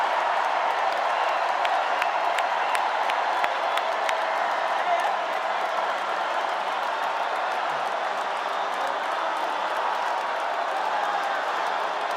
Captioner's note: cheers and applause